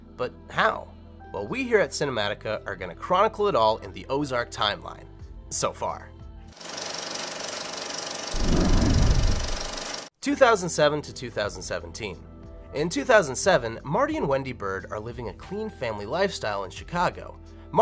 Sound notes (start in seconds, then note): 6.5 film whirring